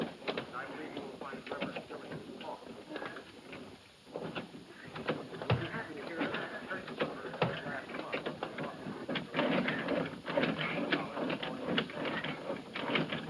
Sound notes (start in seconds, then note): none